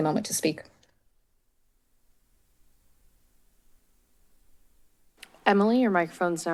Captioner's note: silence